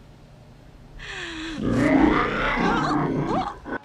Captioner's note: growling